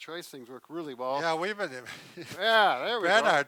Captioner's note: laughs